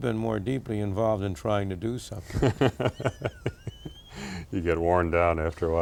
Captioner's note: laughs